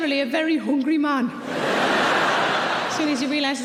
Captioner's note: audience laughing